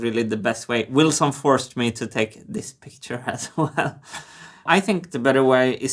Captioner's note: laughing